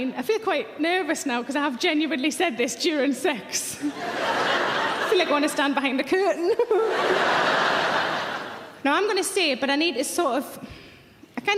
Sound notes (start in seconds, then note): 3.8 audience laughing; 6.6 audience laughing; 6.7 giggles